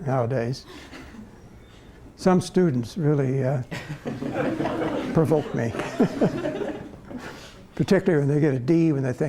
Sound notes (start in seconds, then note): 5.7 laughter